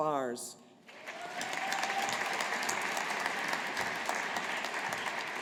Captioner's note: audience applauding